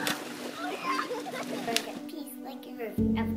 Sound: laughter

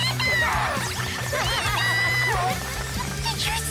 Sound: crowd cheering, applauding

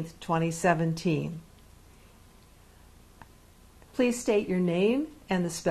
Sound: pauses for 3 seconds

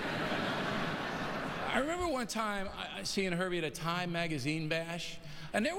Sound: laughter

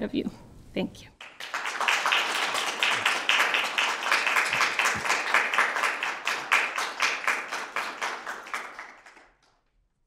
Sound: applause

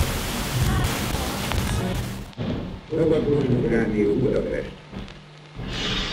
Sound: sounds of a radio programme

